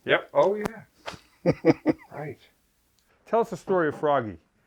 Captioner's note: laughs